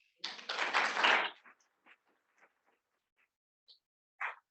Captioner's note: students clapping